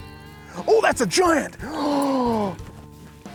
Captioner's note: gasps